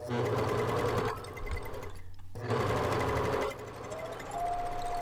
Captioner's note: machine whirring